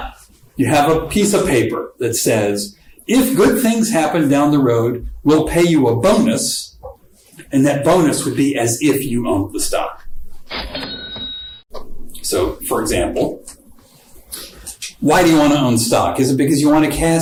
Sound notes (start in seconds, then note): 10.5 cash register sound